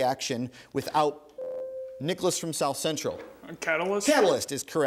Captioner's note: ding